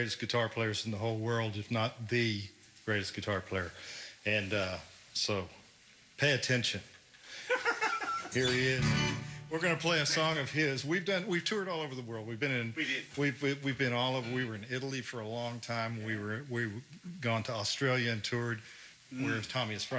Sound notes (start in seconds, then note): 6.1 gentle guitar music; 7.4 laughs